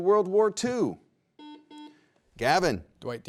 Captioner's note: buzzer rings